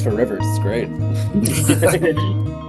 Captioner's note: laughter